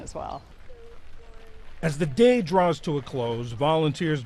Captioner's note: voice-over